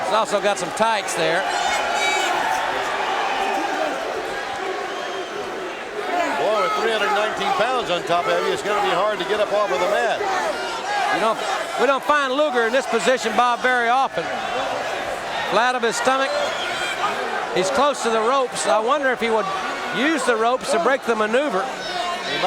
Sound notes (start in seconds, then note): 1.5 audience cheering